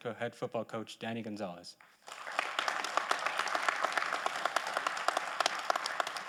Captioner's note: audience applauding